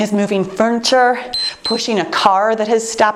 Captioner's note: timer beeps